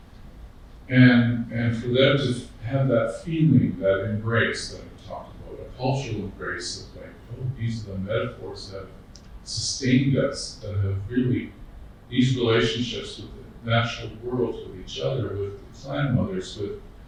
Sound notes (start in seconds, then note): none